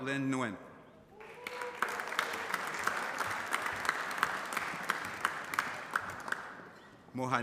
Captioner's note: applause